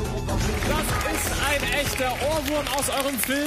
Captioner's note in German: Applaus